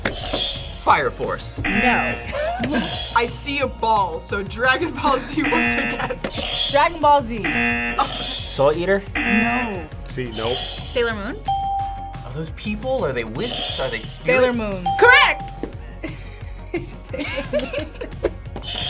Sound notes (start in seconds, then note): 1.5 buzzer; 1.6 buzzer rings; 1.8 laughs; 2.3 buzzer; 5.4 buzzer; 7.4 buzzer rings; 9.1 buzzer; 11.4 bell rings; 11.5 buzzer rings; 14.7 bell rings